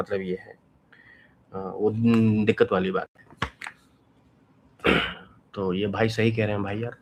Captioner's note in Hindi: गला साफ़ करने की आवाज़